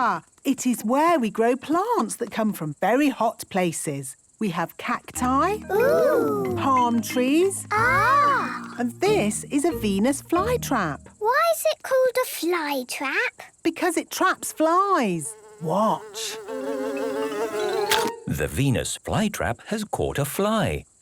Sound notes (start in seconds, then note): 17.1 buzzing; 17.1 chomps